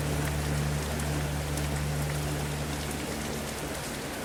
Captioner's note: rain pattering